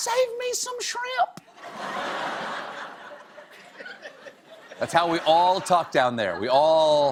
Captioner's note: laughter